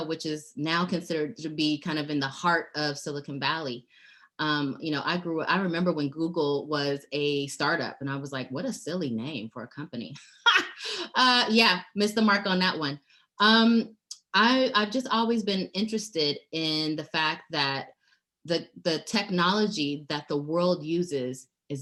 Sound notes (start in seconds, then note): 10.2 laughing